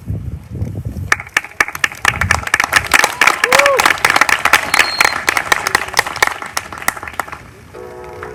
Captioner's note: applause